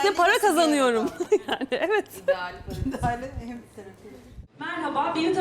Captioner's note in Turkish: Gülüşmeler